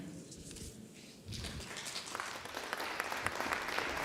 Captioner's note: applause